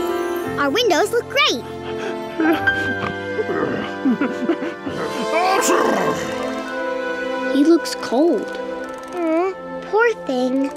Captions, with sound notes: Our windows look great. [grunting] [sneezing] He looks cold. Awe, poor thing.